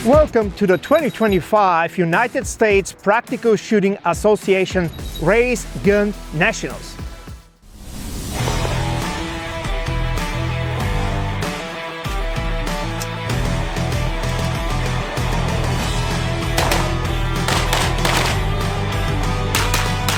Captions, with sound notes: - Welcome to the 2025 United States Practical Shooting Association Race Gun Nationals. (lively music) (gunshots banging)